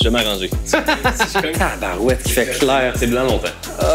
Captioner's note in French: rire